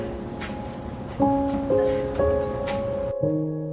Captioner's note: door clicks open; gentle piano music